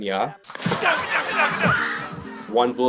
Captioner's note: gunshots